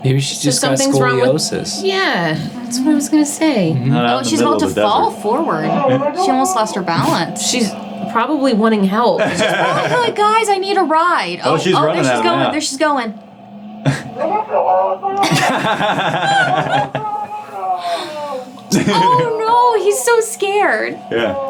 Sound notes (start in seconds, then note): 14.0 police shouting; 15.9 team laughing